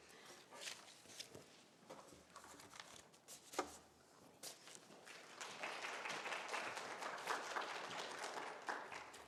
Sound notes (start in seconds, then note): 5.0 applause